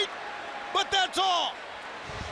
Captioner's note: crowd cheering